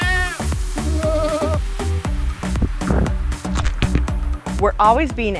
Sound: goats bleating

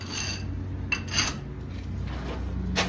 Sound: scraping

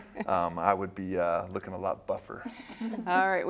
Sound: laughter

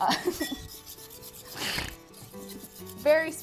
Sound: both laugh

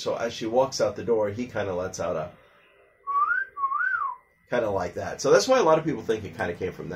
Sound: wolf Whistling sound

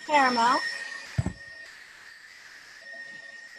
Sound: mixer whirring

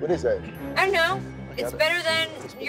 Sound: none

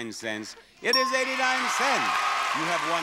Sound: audience applauding

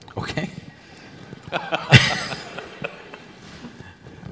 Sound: laughter

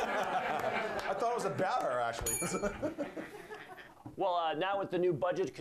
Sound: bell rings

